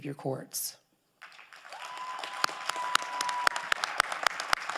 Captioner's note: crowd applauding